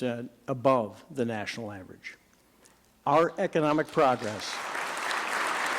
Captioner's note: applause